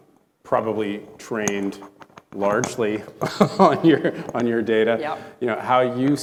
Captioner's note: chuckling